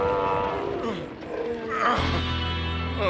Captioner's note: groaning